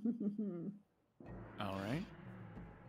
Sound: giggle

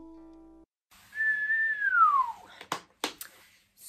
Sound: whistles

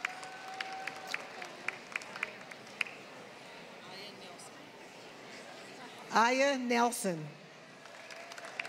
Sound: applause

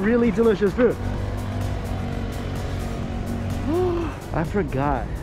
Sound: motorcycle hums

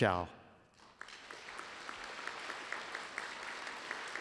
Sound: applause

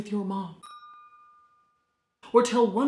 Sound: dinging

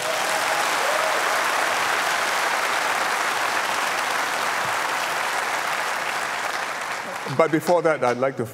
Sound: applause

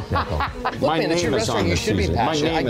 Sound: friend laughing

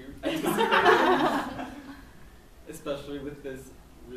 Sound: laughs

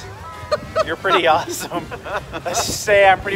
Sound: laughter

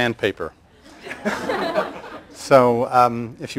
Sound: laughter

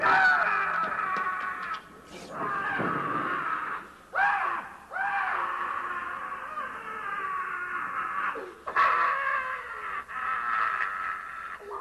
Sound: Fortunato continues to scream

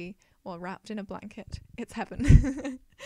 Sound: laughs

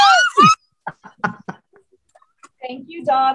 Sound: laughs

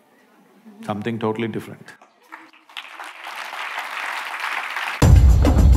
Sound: applause

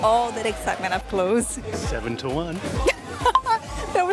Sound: laughs

